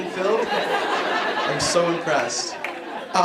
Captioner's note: laughing